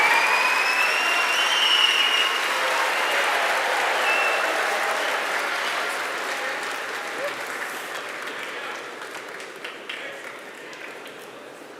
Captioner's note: applause